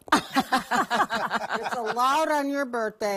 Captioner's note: women laughs